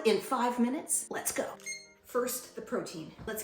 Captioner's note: timer beeps